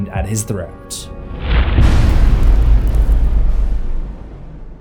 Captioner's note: impact